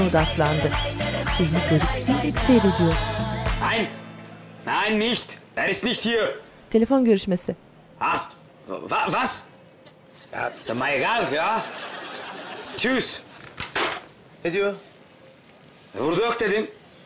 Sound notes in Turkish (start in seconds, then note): 0.0 Geçiş müziği; 3.2 Almanca konuşma